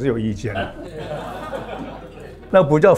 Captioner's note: laughs